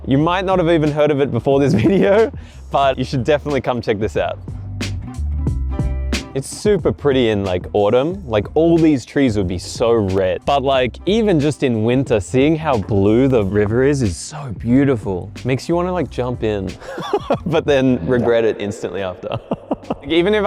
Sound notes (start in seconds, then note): 5.6 relaxing music continues; 16.8 laughs; 19.2 laughs